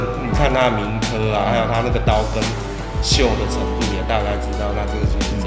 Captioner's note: tang